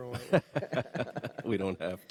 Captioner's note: panelists laugh